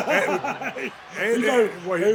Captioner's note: both laughing